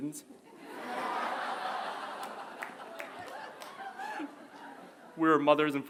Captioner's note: laughter